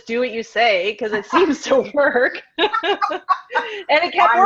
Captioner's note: laughs